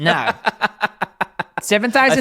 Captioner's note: laughs